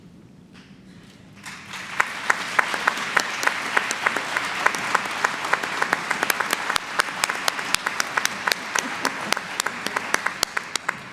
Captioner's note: applause